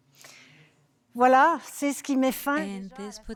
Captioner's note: speaking French